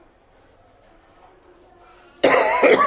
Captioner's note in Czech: Ticho